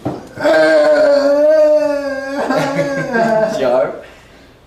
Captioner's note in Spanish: Risas